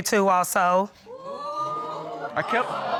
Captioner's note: audience exclaiming